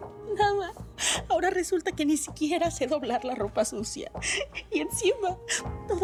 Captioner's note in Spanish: Sollozos